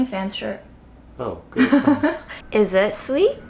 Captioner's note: laughing